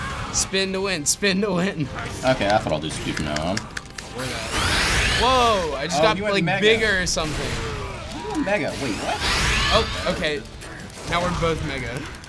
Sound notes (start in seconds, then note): 4.4 powering up